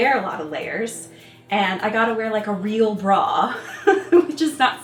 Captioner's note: chuckles